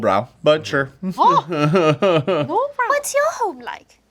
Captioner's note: laughing